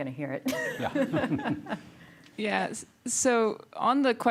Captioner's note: giggling